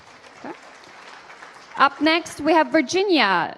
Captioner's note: applause